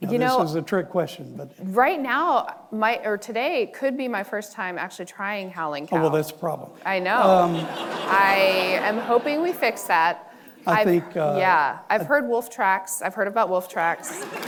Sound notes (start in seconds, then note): 7.1 audience laughing; 14.1 audience applauds